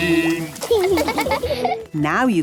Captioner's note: laughing